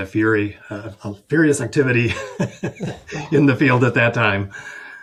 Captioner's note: chuckles